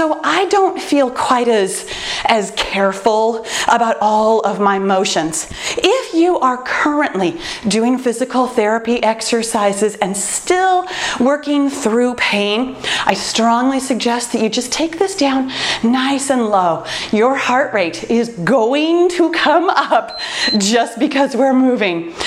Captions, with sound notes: I don’t feel quite as careful about all of my motions. If you are currently doing physical therapy exercises and still working through pain, I strongly suggest that you just take this down nice and low. Your heart rate is going to come up [timer beeps] just because we’re moving.